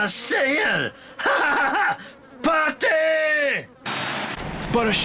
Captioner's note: laughs